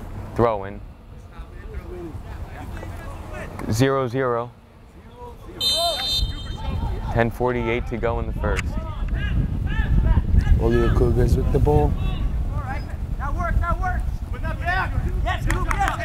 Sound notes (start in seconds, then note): 5.5 whistle blows